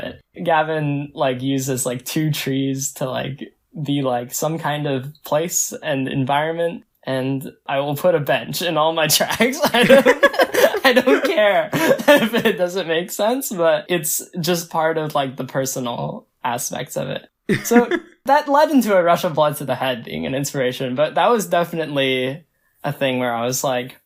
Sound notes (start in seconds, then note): 9.4 both laugh; 17.5 laughs